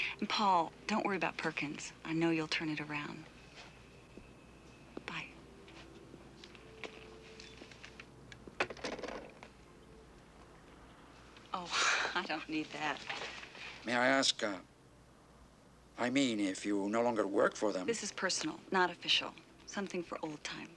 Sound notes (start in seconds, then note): 11.6 chuckles